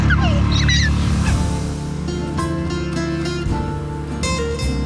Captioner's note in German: lacht